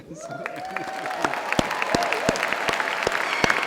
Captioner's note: applause